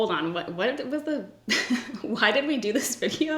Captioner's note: laughs